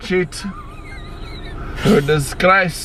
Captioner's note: laughs